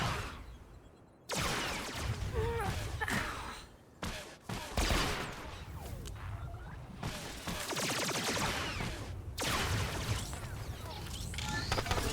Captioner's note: gunshots